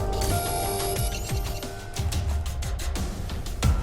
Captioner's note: laser whirring